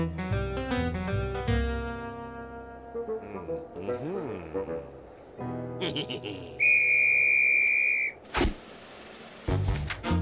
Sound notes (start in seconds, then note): 4.2 laughs; 6.6 whistle blows